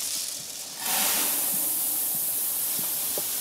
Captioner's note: hiss